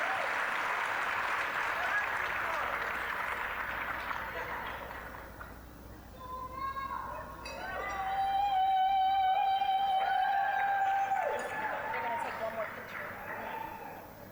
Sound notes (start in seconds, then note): 0.0 applause, cheering; 0.0 applause; 7.9 applause, cheering